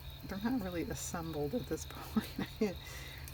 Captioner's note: laughs